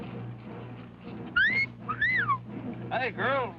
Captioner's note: cop whistles